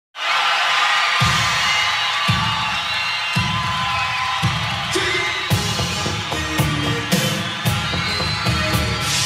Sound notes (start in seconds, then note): 0.1 audience cheering and applauding; 5.7 upbeat pop music begins